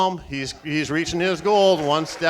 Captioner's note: applauding